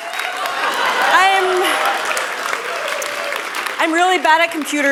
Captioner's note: applause; laughter